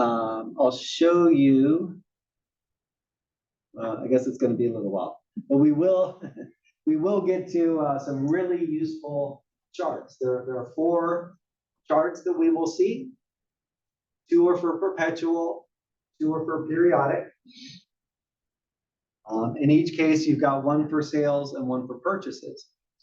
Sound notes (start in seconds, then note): 6.0 laugh